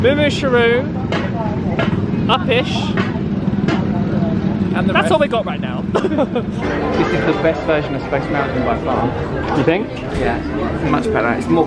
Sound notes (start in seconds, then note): 5.9 laughs